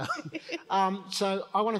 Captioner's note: both laugh